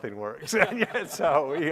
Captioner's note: laughing